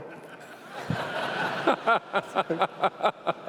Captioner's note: laughs